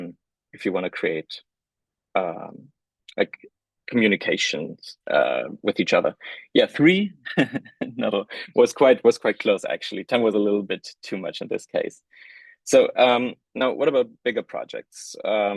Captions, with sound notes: if you wanna create like communications with each other. Yeah, three? (chuckles) No, was quite close actually. 10 was a little bit too much in this case. So, now what about bigger projects?